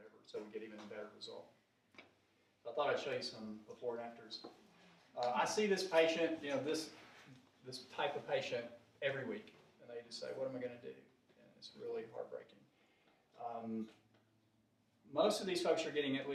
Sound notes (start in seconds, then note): none